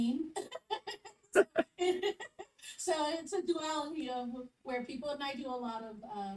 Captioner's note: laughs